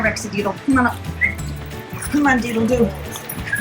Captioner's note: whistles